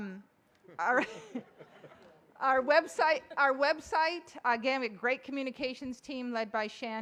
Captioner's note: laughter